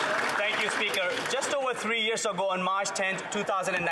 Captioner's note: some Applause